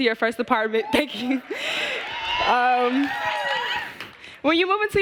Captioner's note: applause